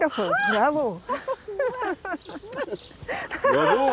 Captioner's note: laughs